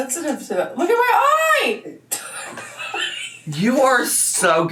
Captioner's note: laughs